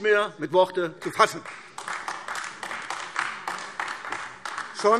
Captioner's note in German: Beifall AfD